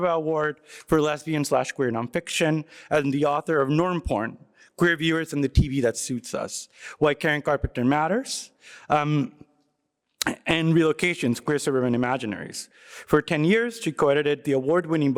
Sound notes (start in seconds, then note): none